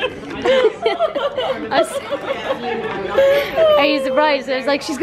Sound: giggling

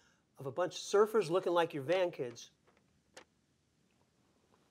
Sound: none

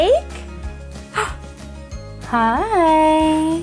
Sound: gasps

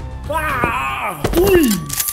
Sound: thud

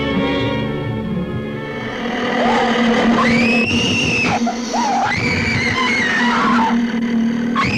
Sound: Natalie screaming; growling

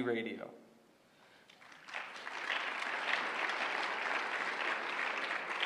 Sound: applause

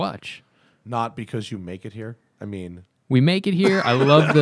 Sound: laughter

